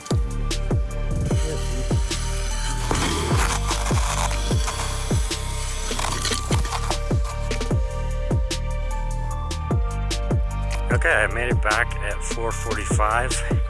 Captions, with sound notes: (ice scraping) Okay, I made it back at 4:45.